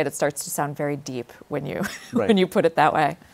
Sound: laughs

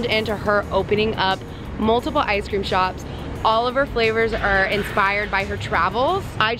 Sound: none

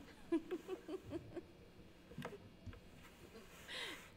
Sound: laughs

